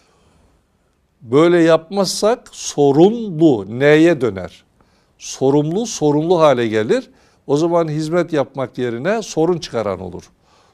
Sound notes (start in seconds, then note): 0.0 in Turkish; 4.1 in Turkish